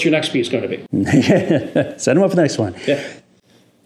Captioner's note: laughs